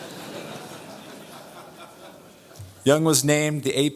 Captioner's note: audience laughs